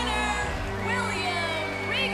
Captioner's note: bell ringing